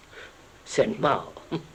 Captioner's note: laughs